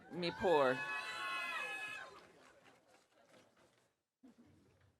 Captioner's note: audience cheering